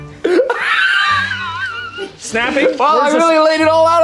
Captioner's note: laughing